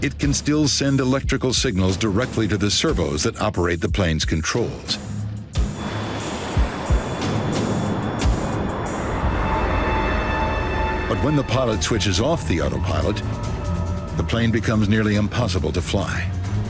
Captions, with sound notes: It can still send electrical signals directly to the servos that operate the plane's controls. (jet whooshing) (intense music) But when the pilot switches off the autopilot, the plane becomes nearly impossible to fly.